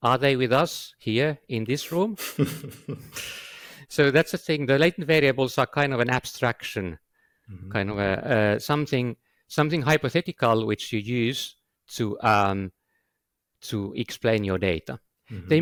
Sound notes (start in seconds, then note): 2.1 laughs